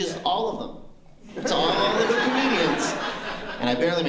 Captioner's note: laughter